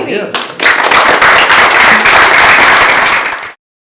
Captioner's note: applause